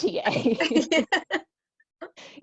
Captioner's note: laughter